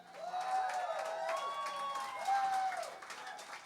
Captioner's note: applause